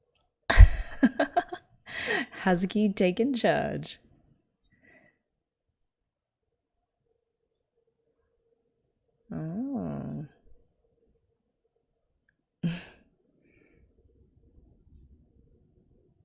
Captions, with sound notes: [laughs] Hazuki taking charge! Oh... [chuckles]